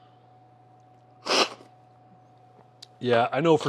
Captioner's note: sipping